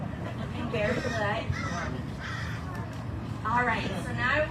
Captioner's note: bird calling in distance